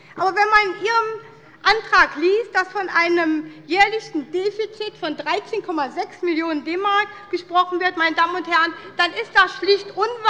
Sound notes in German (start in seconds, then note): none